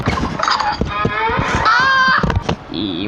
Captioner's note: door Handle Breaks Off